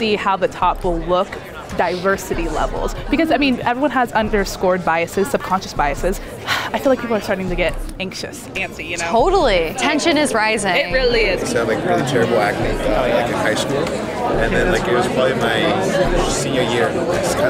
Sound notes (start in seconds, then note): 6.6 sighs